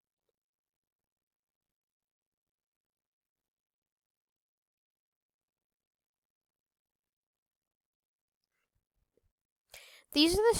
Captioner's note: silence